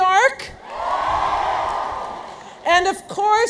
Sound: audience cheers

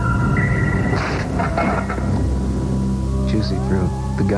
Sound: thud

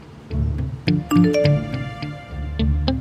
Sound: phone beeps

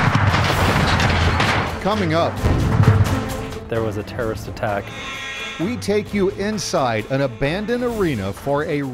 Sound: explosion

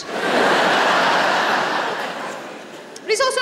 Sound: laughter

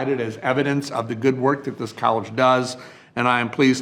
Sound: none

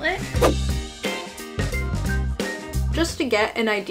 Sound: happy upbeat music; frame whooshing

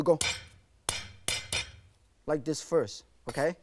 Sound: banging

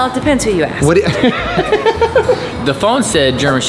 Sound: Rocky laughing

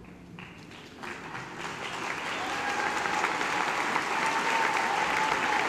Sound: applause

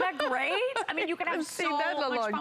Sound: laughter

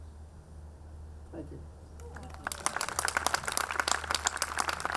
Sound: audience clapping

